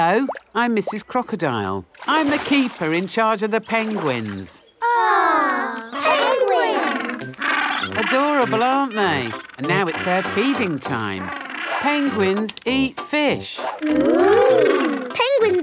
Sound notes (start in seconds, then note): 5.6 penguins chatter